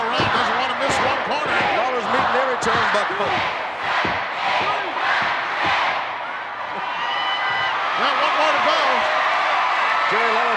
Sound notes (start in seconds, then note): 6.9 audience cheering